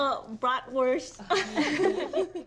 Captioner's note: all laughing